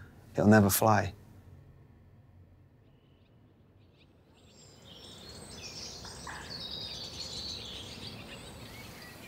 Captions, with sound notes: it'll never fly. (birds chirping)